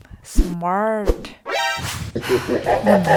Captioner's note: alert sound effect; swoosh; evil laugh